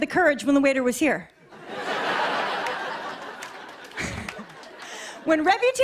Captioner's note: laughter